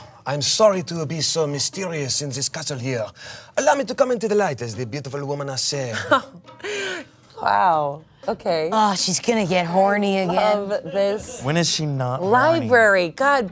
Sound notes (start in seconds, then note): 5.9 giggles